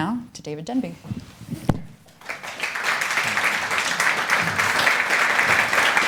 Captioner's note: applause